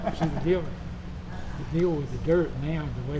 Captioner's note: Richard laughing